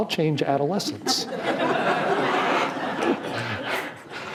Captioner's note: laughing